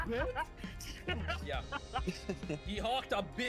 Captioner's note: laughs